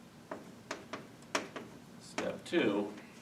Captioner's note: chalk tapping